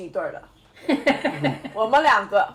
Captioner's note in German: lachen